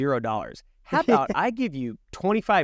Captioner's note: laughing